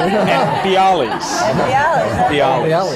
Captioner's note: laughter